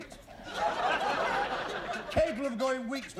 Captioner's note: laughter